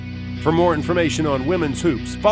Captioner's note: voiceover